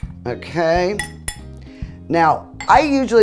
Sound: fork clinking

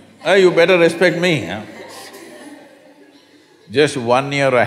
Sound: few laugh

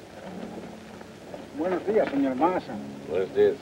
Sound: men speaking in foreign language

